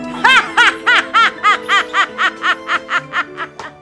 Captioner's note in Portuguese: gargalhada de bruxa